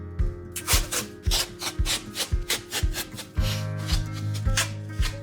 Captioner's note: gentle music; tape screeching